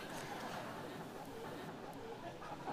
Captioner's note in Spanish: Risas